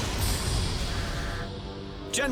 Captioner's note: button clicks, rocket blasts; explosion